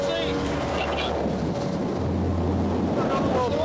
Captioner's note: wind whooshing